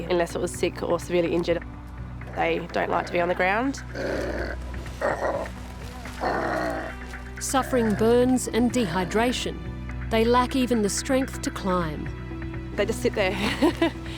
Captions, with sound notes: unless it was sick or severely injured. They don't like to be on the ground. (KOALA GROWLS) Suffering burns and dehydration, they lack even the strength to climb. They just sit there.